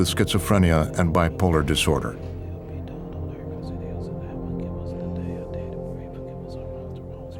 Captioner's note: whispering prayer